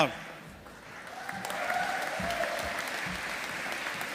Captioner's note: audience applauding